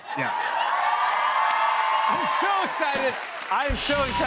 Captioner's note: cheers and applause